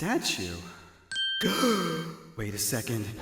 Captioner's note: gasp